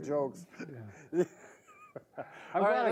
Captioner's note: both laughing